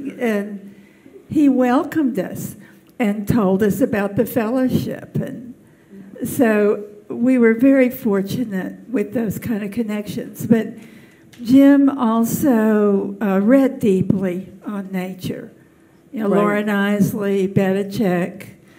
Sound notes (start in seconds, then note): none